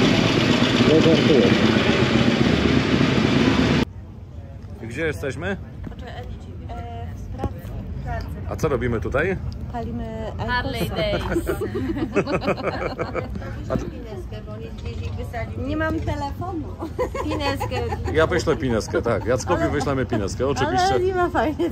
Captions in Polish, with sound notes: gdzie jesteśmy? W Pradze. A co robimy [śmiech] Palimy iqosa, Harley Days tutaj nie mam telefonu wyślemy pinezkę